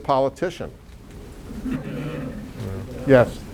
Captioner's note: audience laughs